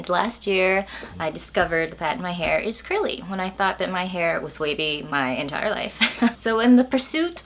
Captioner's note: laughs